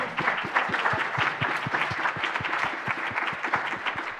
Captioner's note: applause